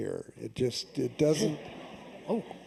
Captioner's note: laughter